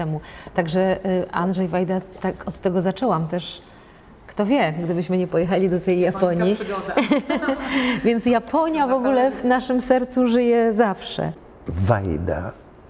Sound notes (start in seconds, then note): 6.7 laughter